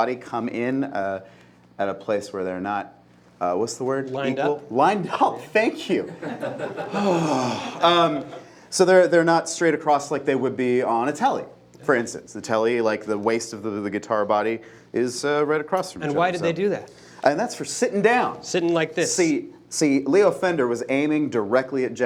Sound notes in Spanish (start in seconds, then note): 6.0 risas; 6.8 suspiros